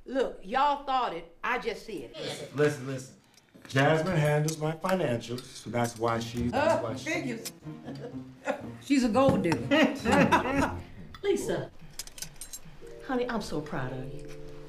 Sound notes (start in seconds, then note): 2.3 some family members agree in unison; 10.4 chuckling